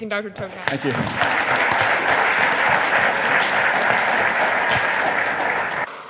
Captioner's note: audience applauds